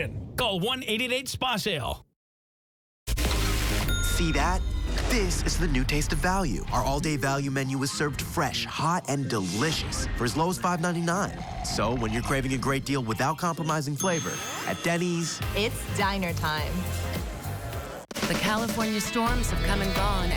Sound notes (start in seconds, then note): 3.9 ding